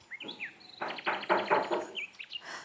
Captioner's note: knocking